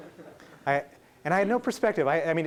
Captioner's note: laughing